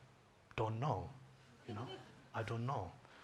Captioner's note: audience chuckles